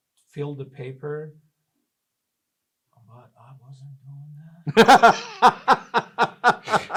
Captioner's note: both laugh